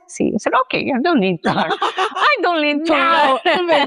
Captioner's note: laughs